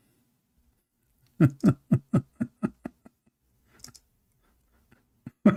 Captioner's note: Ketawa